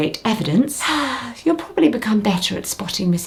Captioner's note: sighing